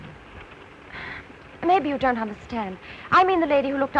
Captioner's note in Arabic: تنهد